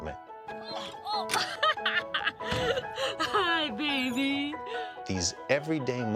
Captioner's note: laughs